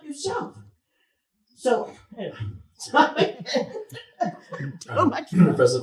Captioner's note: chuckles